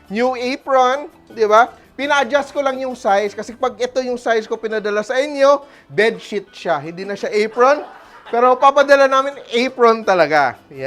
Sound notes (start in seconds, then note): 7.4 laughs